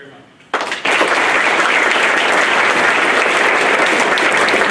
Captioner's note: clapping